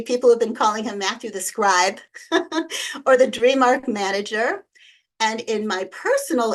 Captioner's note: chuckles